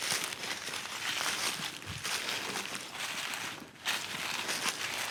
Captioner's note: leaves crunching